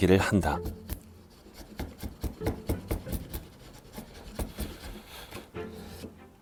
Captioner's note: chiseling sound